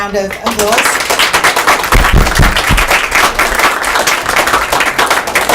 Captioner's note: audience applauds